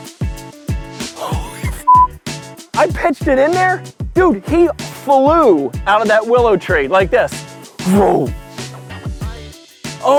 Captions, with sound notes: Holy (beep). I pitched it in there. Dude, he flew out of that willow tree, like this. (imitates air whooshing)